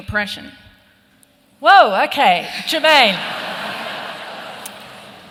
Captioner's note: laughter